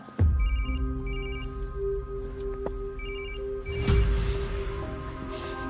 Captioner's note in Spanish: Suena el celular